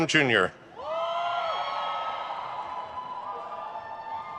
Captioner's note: crowd cheers